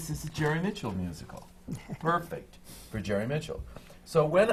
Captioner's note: laughs